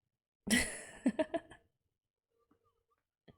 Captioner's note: laughs